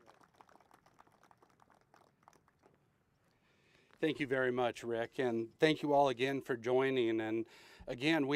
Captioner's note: applause